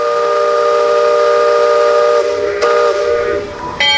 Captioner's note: steamboat whistling